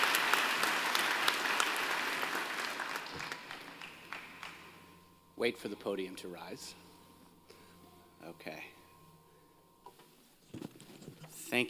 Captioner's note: applause